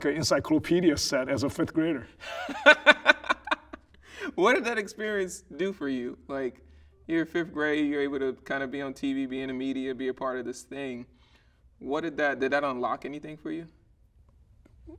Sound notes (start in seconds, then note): 2.2 laughing